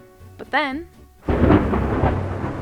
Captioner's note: thunder